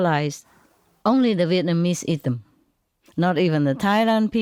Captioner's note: Vietnamese